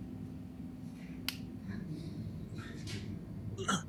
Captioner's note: light switch click; painter groaning